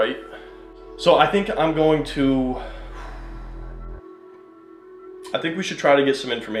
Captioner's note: sighs